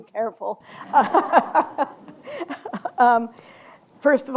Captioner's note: laughter